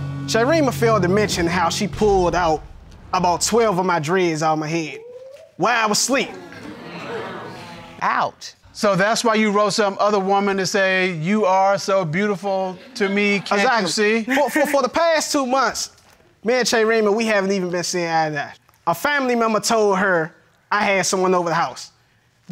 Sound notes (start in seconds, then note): 14.2 stammers